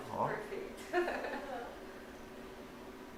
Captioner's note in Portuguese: risos